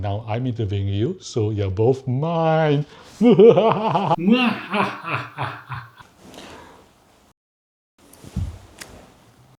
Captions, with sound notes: And now, I'm interviewing you. So you're both mine! (Evil laugh)